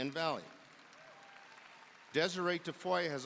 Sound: audience cheering and applauding

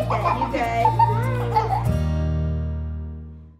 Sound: kids giggle

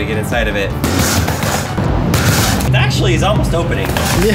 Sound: safe thudding

